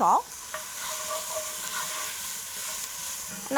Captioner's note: sizzling continues